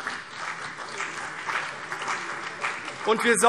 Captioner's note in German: Beifall CDU und BÜNDNIS 90/DIE GRÜNEN